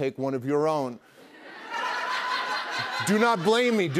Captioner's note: laughter